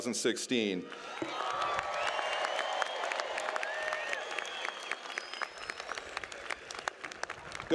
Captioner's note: applause